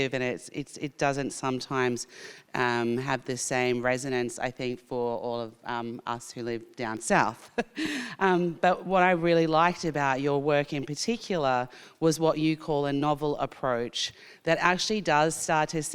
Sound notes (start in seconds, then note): 7.5 chuckles